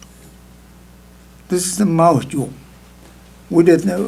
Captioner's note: speaking tibetan